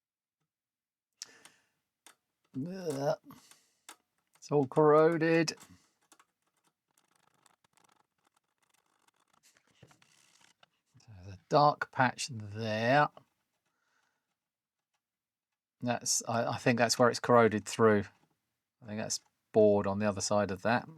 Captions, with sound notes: (Silence) It's all corroded. (Keyboard Clattering) The dark patch there. That's, I think that's where it's corroded through. I think that's bored on the other side of that.